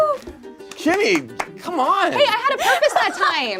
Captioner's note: claps